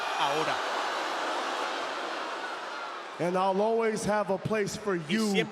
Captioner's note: applause